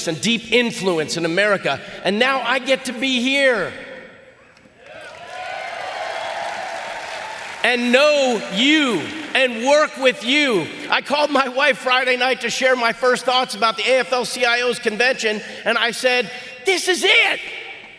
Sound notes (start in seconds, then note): 4.9 audience applauding